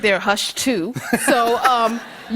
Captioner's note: laughter